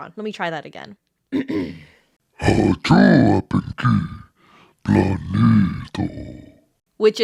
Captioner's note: low Ominous Voice